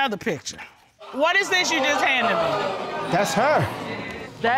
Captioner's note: audience exclaiming